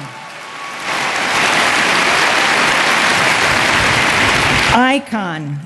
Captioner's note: applause